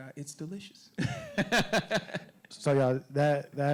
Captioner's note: laughing